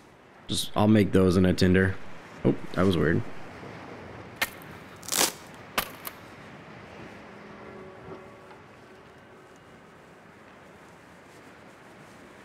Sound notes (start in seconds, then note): 5.0 sticks Breaking